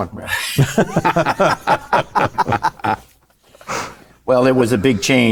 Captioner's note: panelists laughing